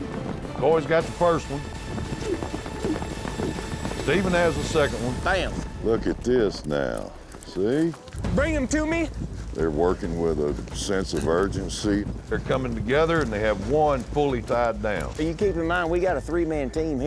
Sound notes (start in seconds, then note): 1.5 rope swirling